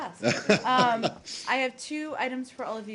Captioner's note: laughter